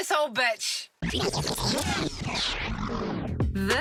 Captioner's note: tape rewinds